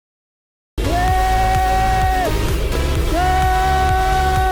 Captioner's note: yelling